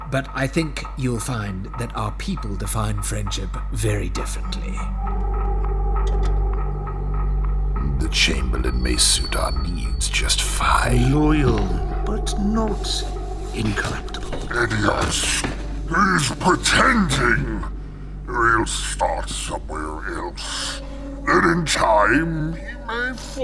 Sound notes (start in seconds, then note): 7.9 sound of door opening, then closing